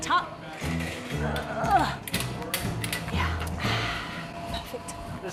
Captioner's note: sighs